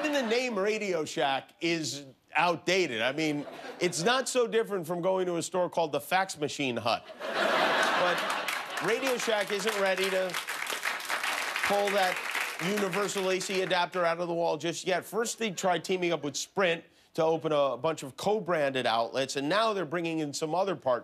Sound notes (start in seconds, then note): 7.0 laughter; 11.9 applause